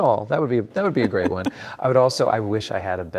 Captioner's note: laughs